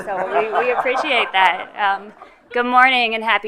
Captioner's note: attendees laugh